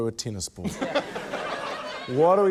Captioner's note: laughter